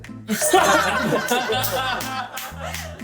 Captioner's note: laughing